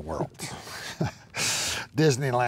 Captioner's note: chuckles